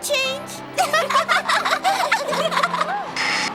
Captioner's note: giggling